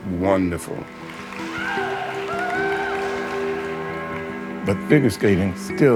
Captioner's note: audience applauding; audience cheering